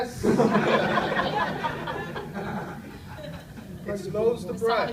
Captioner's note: audience laughs